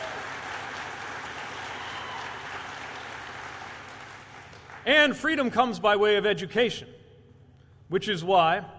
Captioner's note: applause